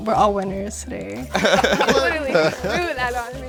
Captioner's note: all laughing